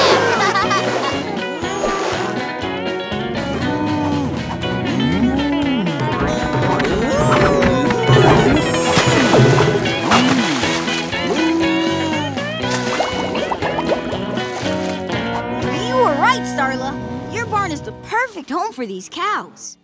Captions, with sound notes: [laughing] [mooing] You were right, Starla. Your barn is the perfect home for these cows.